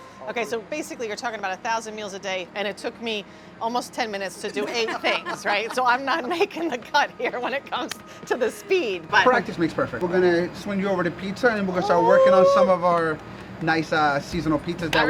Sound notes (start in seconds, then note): 4.5 laughs